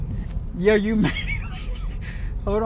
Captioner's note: laughs